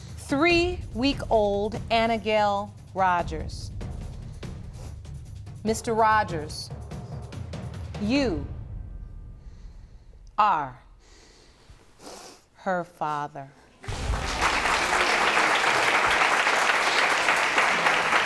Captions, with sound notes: three-week-old Annagayle Rogers. Mr. Rogers... You... Are... ...her father. (ALL APPLAUDING)